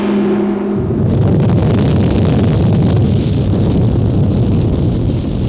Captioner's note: earth rumbling